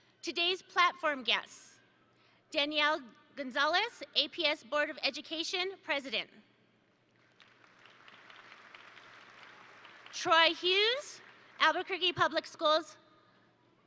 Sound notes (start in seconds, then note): 7.2 attendees applaud